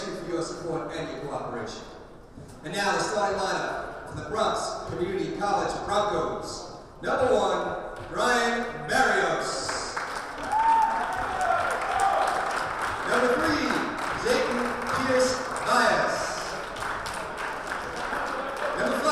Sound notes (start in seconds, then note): 10.7 crowd applauding and cheering; 17.2 crowd applauding